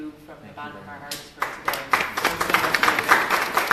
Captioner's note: applause